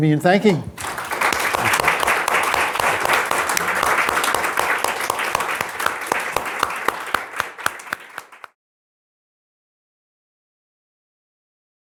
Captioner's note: applause